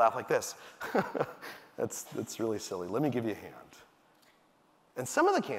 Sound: chuckles

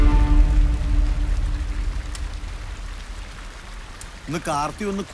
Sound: water Sound

